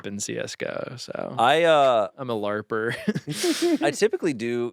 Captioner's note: laughs